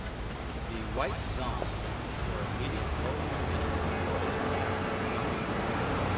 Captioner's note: man On P.A